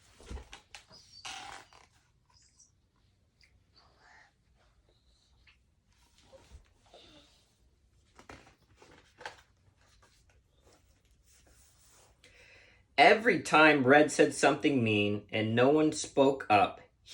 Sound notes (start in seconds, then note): 0.1 book squeaking; 4.1 child sighing; 8.0 page turning